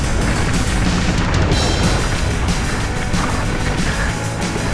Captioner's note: upbeat music; wheels crunching; upbeat music